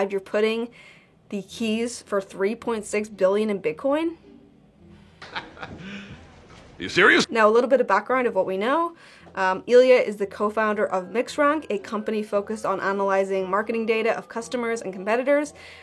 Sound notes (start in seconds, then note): 5.2 laughing